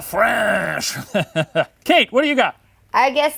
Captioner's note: laughing